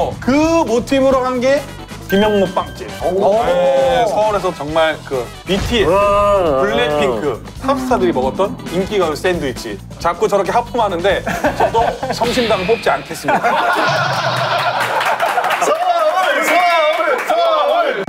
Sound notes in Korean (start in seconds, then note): 6.4 빵강국의 하품 공격; 14.3 박수갈채